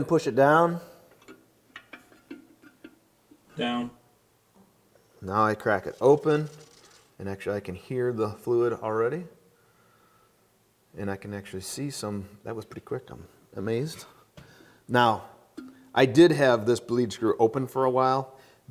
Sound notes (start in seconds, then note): 6.6 fizzing